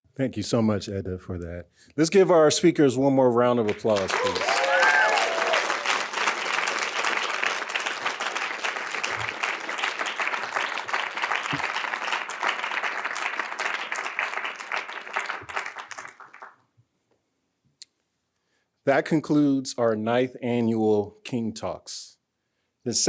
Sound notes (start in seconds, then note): 4.8 audience applauding; 12.5 audience continue applauding